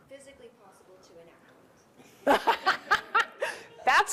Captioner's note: laughter